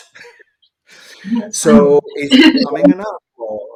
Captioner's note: chuckles